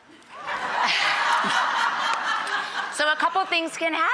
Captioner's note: laughing